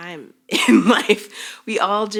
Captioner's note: chuckles